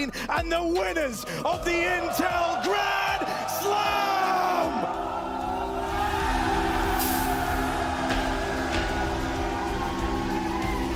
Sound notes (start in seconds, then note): 6.0 crowd cheering